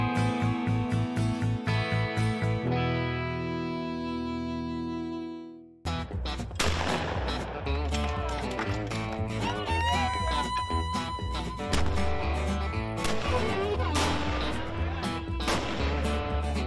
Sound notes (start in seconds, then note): 5.8 upbeat bluegrass music; 6.5 gunshots